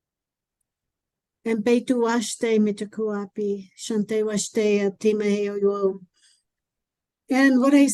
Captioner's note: Speaking Lakota language